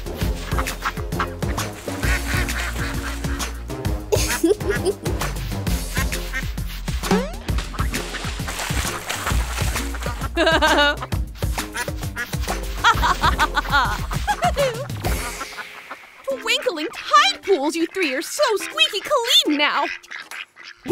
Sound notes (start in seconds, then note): 12.8 laughs